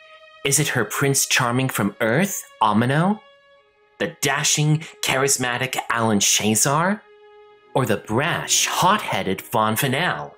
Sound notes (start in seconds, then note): none